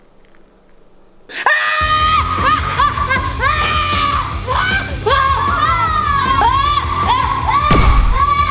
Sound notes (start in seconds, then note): 1.3 screams